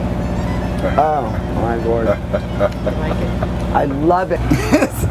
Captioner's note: laughter